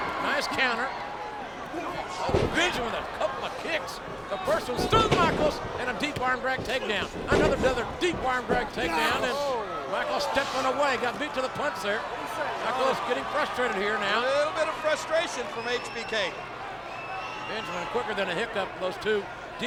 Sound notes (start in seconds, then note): 2.0 Michaels groans; 2.2 kick thuds